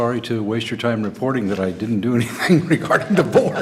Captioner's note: laughter